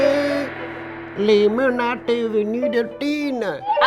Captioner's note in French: voix caricaturale de chinois